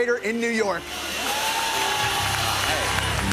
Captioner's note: cheers and applause